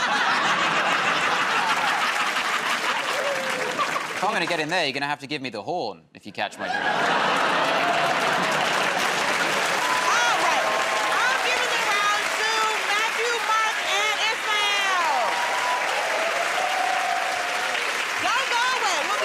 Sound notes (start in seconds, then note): 0.0 laughter; 7.3 laughter, applause; 15.3 cheers and applause